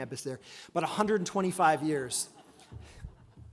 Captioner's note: audience laughs